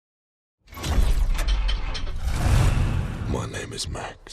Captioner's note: engine Revving